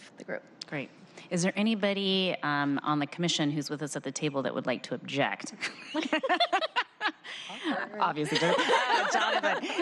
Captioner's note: laughter